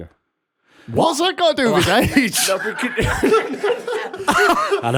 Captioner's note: laughter